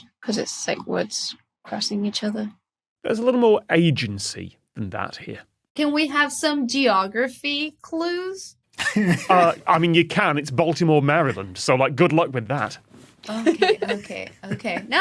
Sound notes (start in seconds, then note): 8.8 chuckles; 13.2 giggles